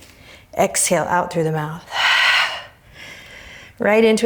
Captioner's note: deep breaths; deep breaths